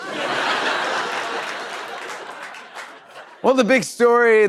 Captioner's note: laughter